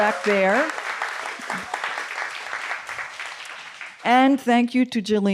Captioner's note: audience applauding